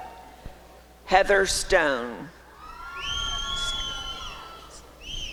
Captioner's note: applause and cheering